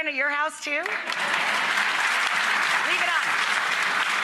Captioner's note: audience applauds